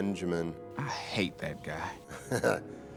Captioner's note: chuckles